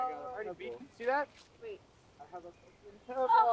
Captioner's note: overlapping chatter